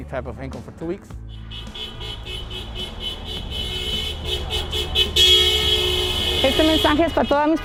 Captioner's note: car honks